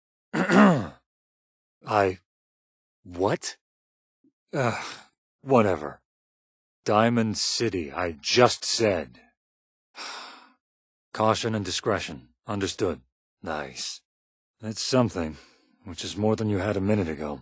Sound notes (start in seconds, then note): 4.6 sighs; 8.8 defeated sigh